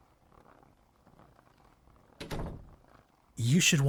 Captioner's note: angel noises